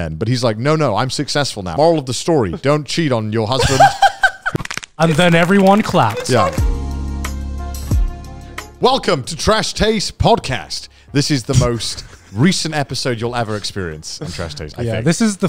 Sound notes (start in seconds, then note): 3.6 laughing; 4.4 bones cracking; 5.0 applause; 8.1 chill ambience music